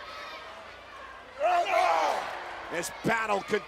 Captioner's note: wrestlers grunting